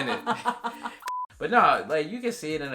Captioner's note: laughing; beep